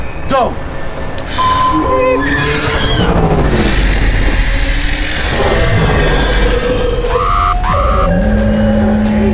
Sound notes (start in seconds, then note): 1.2 monster screeching; 1.3 sonar pinging